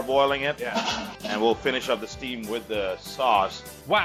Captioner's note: pans clanking